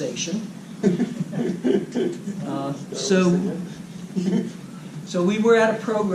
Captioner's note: laugh